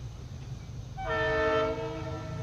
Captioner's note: 1st Train horn Blow